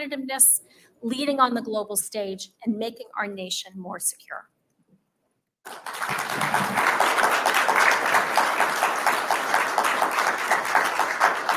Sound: applause

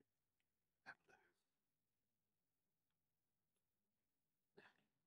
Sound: silence

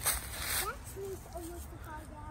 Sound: wind blows; birds chirp

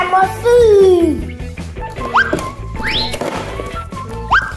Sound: sliding sound

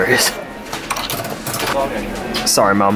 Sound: coins clinking

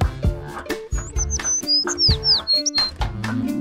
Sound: birds tweeting

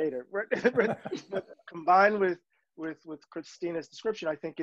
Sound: laughs

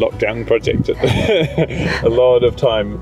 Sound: chuckles

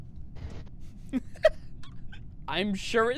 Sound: laughter

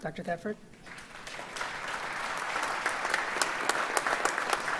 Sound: audience applauds

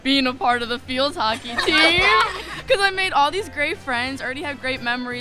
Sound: laughter

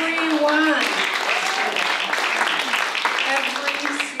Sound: applause

